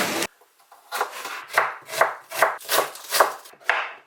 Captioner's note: the sound of cutting onions